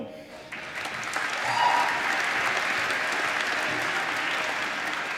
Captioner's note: applause